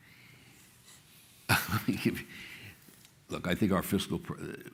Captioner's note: chuckles